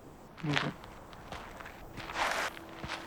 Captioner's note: approaching footsteps